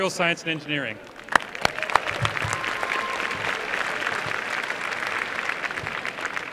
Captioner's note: applause